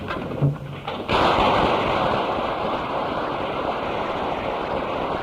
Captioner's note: applause